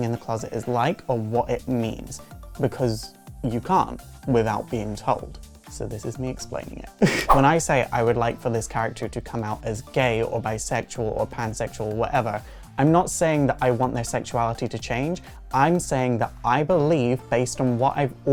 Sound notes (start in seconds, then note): 7.0 laugh